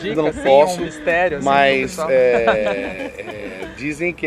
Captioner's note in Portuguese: risos